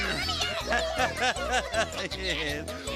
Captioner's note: laughing; little cats chattering